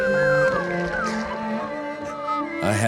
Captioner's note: whimpering